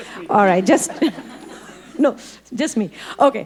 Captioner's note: audience laughing